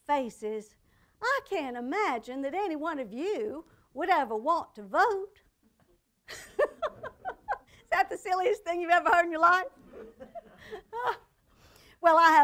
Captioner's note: chuckles